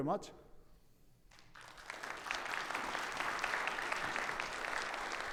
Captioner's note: audience clapping